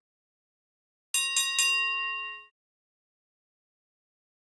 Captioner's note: bell ringing